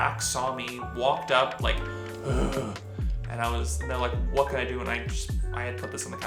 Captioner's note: sighed